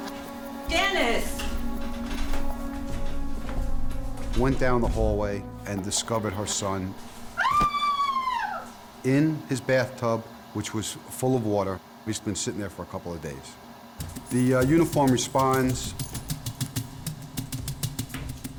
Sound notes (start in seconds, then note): 0.1 stairs squeaking; 7.3 terrified scream; 15.5 thrilling music